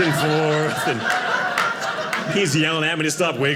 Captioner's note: audience laughing